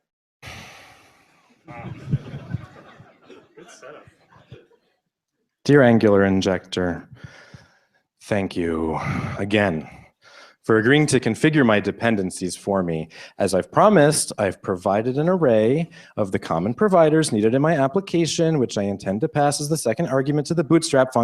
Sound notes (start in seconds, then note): 1.6 laughter